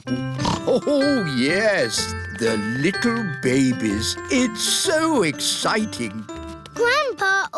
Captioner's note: snorts